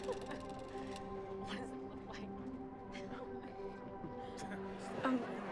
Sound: upbeat mood music; people talking

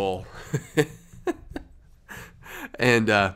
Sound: laughing

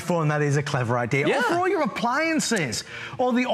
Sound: laughter

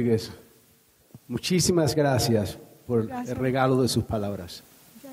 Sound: speaking in Spanish

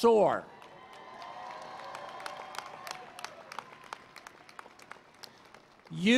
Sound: cheering and Applause

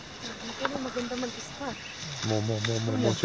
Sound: conversation in foreign language

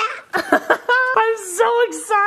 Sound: laughs

